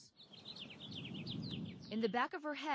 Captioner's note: birds chirping